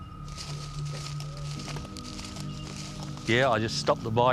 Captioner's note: undergrowth rustling